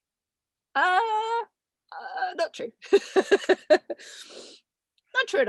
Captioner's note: laughs